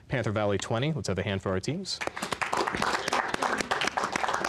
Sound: applause

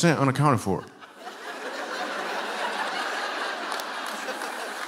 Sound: laughter

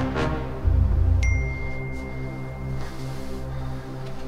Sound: ding

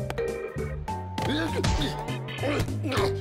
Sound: grunting

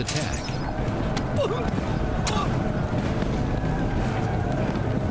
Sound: battle cry

